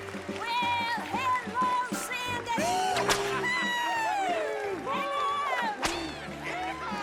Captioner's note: whips